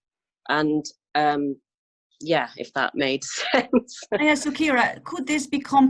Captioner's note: laughs